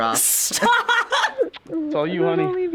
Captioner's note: laughs; man smooches